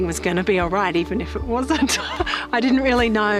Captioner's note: laughs